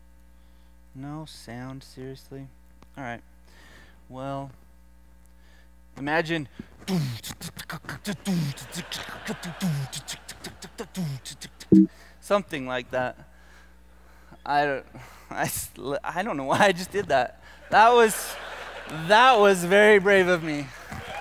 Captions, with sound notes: No sound, seriously? All right, well imagine (beatboxing) (laughter) Something like that. I don't know why I just did that. (laughter) That was very brave of me.